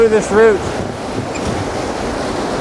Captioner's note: rushing water